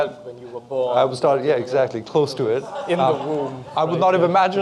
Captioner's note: audience laughs